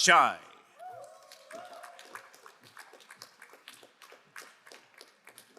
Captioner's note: crowd applauding